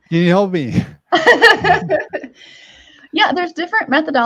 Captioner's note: laughs